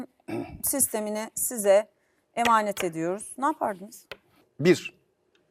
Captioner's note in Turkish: boğazını temizler